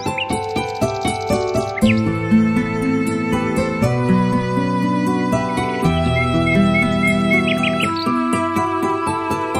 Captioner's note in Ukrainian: спів пташок